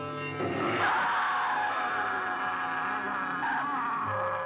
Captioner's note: snarling